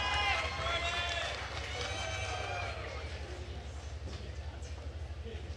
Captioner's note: attendees cheering and applauding